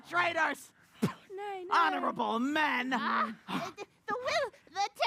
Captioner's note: spits